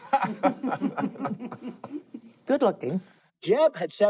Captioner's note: laughing